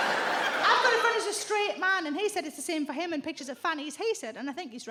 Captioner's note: audience laughs